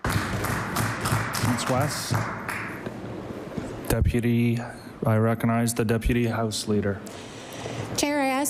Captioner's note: applause